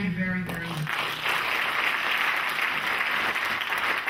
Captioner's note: clapping